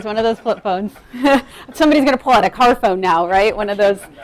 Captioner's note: laughing